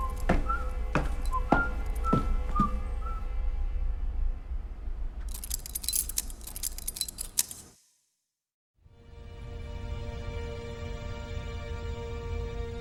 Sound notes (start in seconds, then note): 5.3 knife clicking; 8.9 tense string music